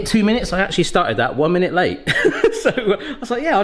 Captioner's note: laughs